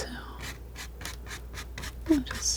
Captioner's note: scratching